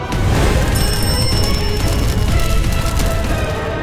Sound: A dinner bell chimes

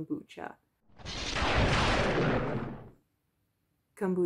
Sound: lightning strikes

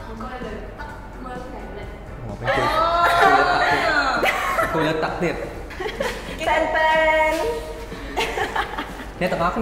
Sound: laugh

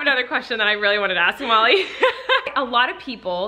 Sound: laughs

